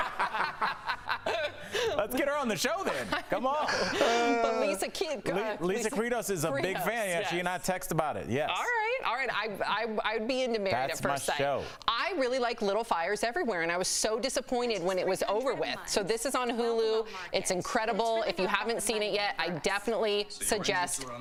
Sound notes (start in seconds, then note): 2.9 laughter